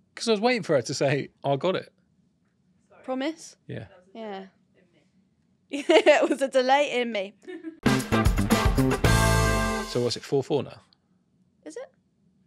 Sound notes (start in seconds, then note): 4.5 speaking off mic; 5.7 laughs; 7.8 lively music